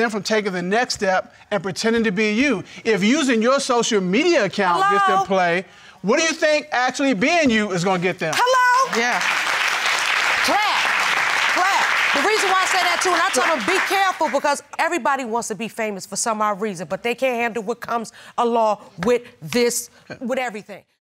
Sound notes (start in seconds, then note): 10.8 audience applauding